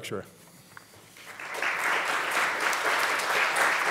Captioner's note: applause